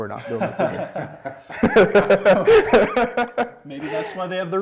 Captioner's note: laughing